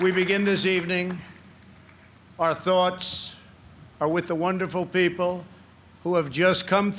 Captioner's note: applause